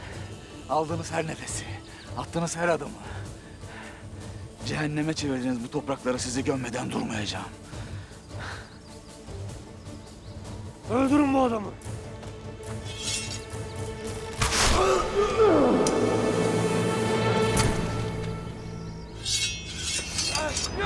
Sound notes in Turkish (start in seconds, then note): 12.8 Kılıç çekme sesi; 13.9 Ok fırlatma sesi; 19.2 Kılıç çekme sesleri; 20.3 Bağırma sesleri